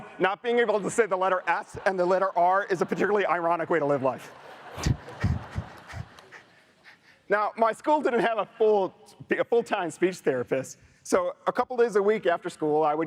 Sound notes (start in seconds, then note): 4.5 audience laughs